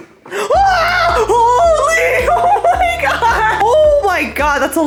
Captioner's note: screaming